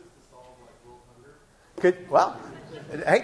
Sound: laughing

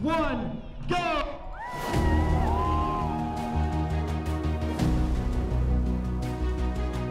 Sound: spectators cheering; mid tempo music

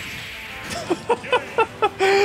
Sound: laughs

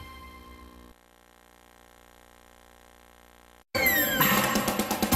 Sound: VHS static

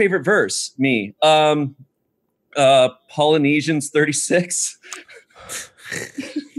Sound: laughs

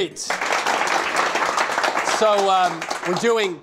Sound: applause

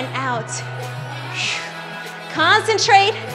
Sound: sighs

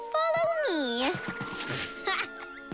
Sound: chuckles

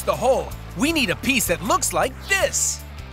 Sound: none

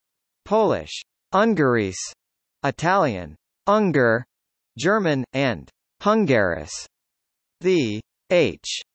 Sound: Polish; Italian; German

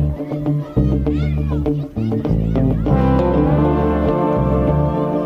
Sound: children playing

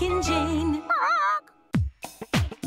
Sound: squawks sadly

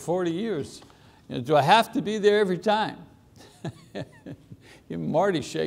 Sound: laughs

